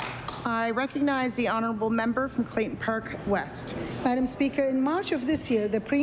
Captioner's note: applause